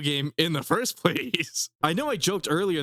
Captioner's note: laughs